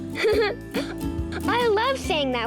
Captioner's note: laughing